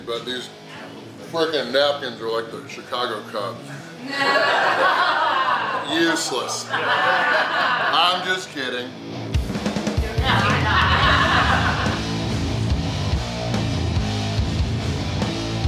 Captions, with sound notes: but these freaking napkins are like the Chicago Cubs. (audience laughing) Useless. (audience laughing) I'm just kidding. (audience laughing) (upbeat rock music)